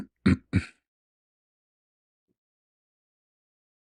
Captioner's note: clears throat and cough